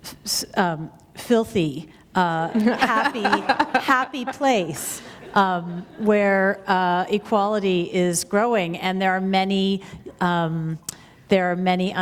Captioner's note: laughter